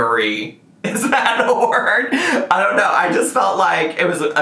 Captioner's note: laughs